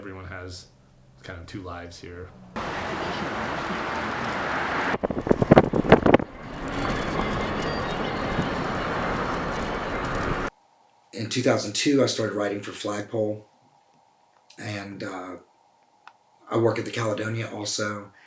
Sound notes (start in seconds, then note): 2.4 wind crackling; 2.8 car engine rumbling